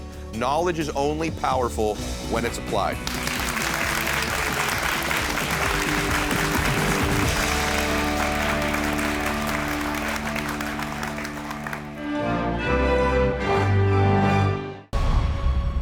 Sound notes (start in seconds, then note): 3.0 audience applauding; 12.1 bright upbeat music